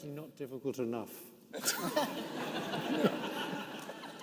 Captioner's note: participants laughing